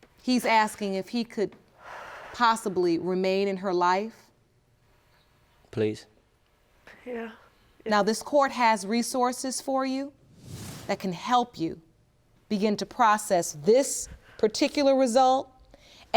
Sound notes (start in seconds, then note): none